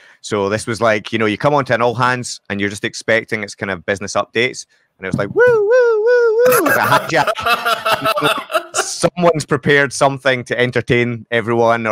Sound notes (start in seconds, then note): 5.8 imitating siren; 6.2 laughs